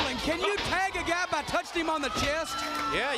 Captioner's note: crowd cheering